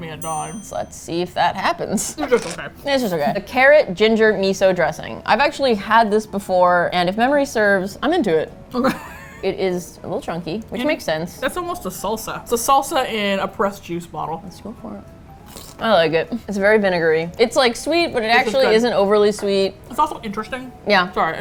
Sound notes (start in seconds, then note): 8.8 laughs; 15.3 crunch